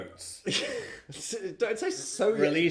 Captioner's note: chuckling